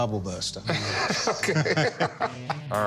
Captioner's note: laughter